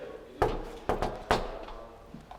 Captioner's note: knock, knock